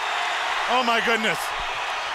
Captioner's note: crowd cheering